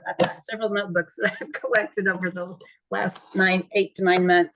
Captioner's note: laughs